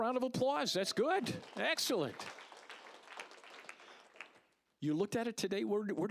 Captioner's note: applause